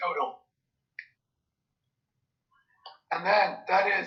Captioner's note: pause